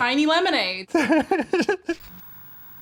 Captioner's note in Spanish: risas